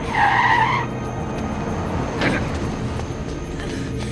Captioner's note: tires squealing